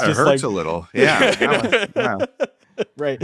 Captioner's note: everyone laughing